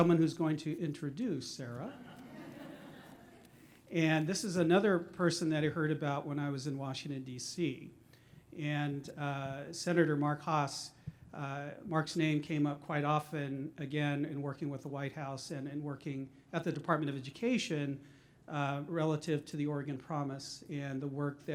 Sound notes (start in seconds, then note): 1.8 laughter